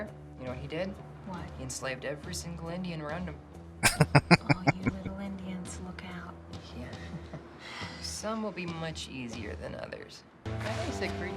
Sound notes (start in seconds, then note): 3.8 laughing